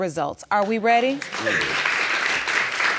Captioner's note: audience applauding